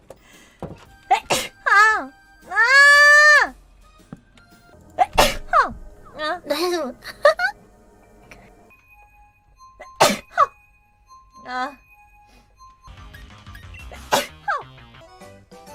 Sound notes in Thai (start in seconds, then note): 6.9 ขำ